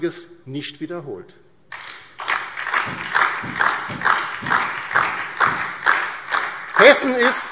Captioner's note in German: Beifall DIE LINKE, vereinzelt SPD und Freie Demokraten